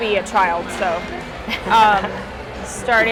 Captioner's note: laughs